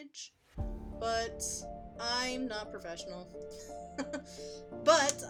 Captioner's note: chuckles